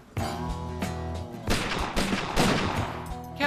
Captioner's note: gunshots